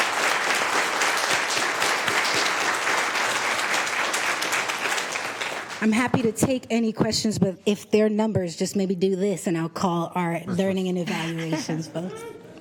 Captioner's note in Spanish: Aplausos